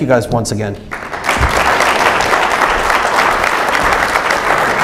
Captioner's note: audience applauds